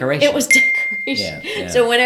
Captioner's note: bell dings